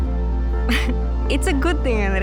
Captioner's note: laughs